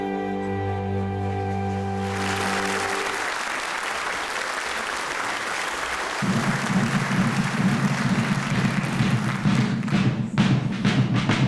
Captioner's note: applause